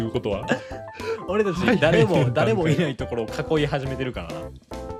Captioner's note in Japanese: 笑い